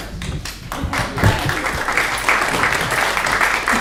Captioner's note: clapping